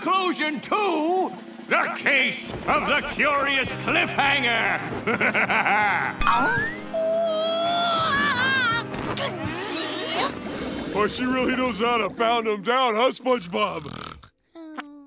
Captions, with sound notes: to... the Case of the Curious Cliffhanger. [laughing] Whoo! She really knows how to pound 'em down. Huh, SpongeBob? [SpongeBob snoring]